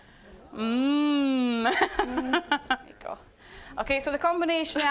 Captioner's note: laughing